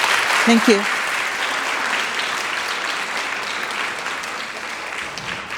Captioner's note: audience clapping